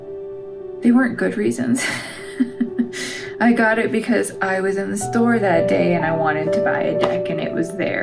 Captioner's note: laugh